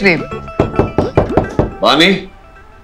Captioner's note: Knocking on the door